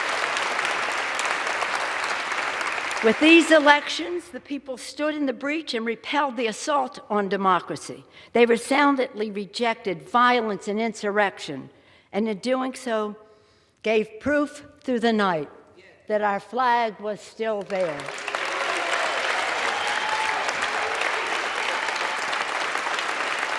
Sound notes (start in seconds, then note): 5.0 applause